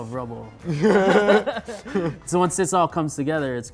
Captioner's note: both laughing